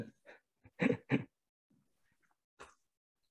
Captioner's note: laughs